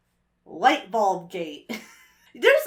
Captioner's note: wheezes